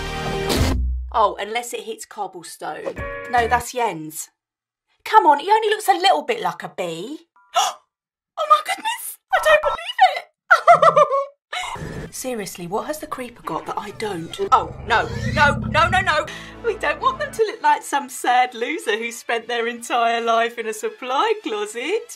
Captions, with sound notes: “Oh, unless it hits cobblestone.” “No, that’s Jens. Come on, he only looks a little bit like a bee!” “*GASP* Oh my goodness! I don’t believe it!” *Very cute British computer giggle* “Seriously what has the Creeper got that I don’t?” “Oh, no. NO. nO NONO.” “We don’t want them to look like some sad loser who spent their entire life in a supply closet!”